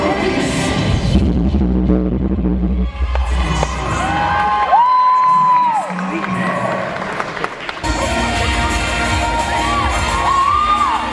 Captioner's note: crowd Cheer